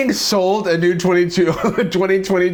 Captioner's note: chuckles